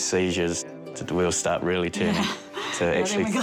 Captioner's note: laughs